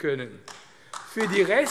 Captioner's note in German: Beifall AfD